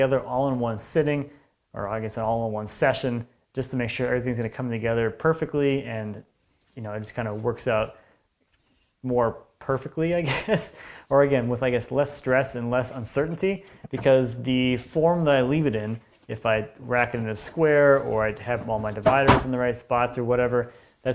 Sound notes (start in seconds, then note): 10.2 chuckles